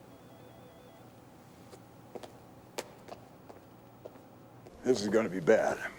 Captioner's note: footstep